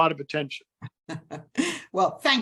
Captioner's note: laughs